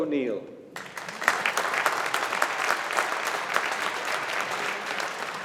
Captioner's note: audience applauding